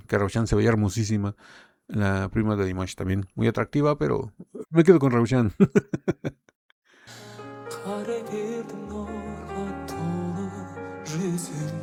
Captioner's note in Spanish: risas